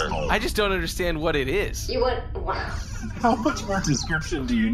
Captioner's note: laughing